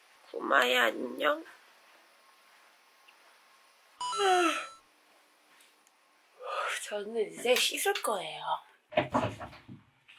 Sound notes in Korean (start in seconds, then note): 4.2 하품